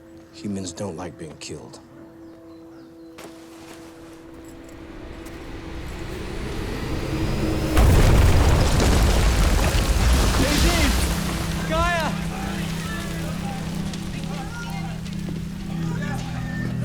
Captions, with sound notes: Humans don't like being killed. [explosions] - JZ? Kaya? [rushed chatter]